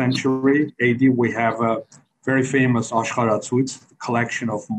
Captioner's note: speaks foreign language